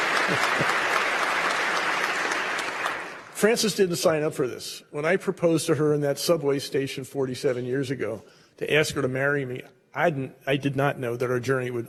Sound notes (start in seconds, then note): 0.0 applause